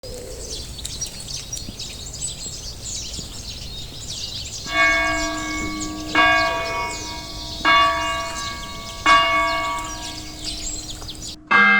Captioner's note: birds are singing in the background, bells start to ring very loud